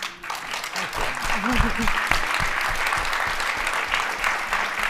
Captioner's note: applause